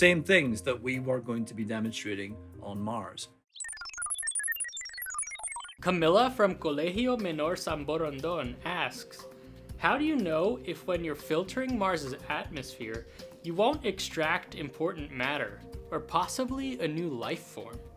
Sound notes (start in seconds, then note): 3.5 beeping